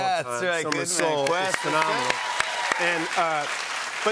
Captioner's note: cheers and applause